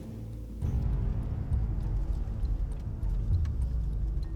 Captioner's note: threatening ambient music; car sounds while driving